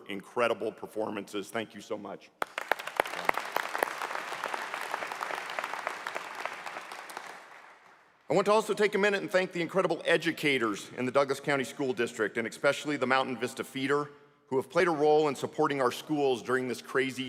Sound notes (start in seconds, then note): 7.5 applause